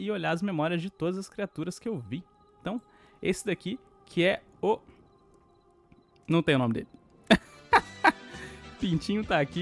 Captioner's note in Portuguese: risadas